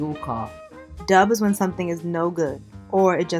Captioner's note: voiceover